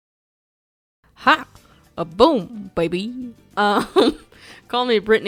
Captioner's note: laughs